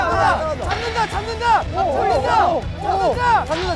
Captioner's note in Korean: 목청으로 응원